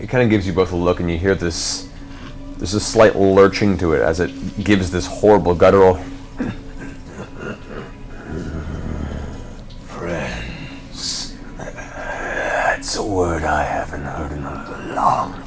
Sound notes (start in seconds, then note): 6.7 low chuckle